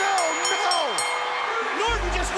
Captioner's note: bell ringing